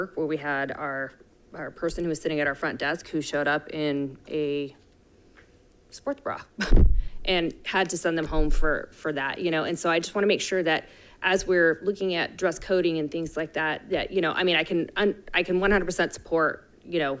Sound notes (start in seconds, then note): 6.3 laughs